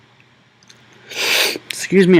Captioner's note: sniffing